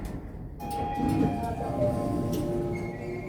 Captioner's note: lift Chime